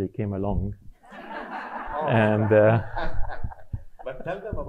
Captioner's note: audience laughing